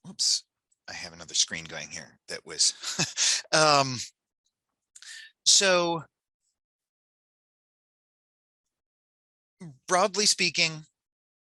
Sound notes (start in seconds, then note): 2.6 chuckles